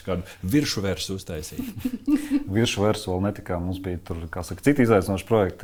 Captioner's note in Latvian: smiekli